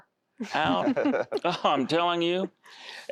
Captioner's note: laughter